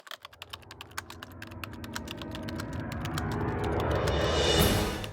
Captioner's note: typing sounds